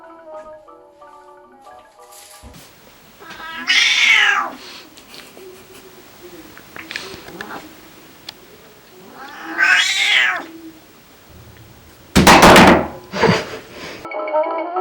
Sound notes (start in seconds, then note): 3.6 Rex continuously meows loudly; 13.1 drops loudly, giggling